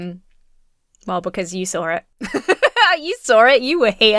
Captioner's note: laughs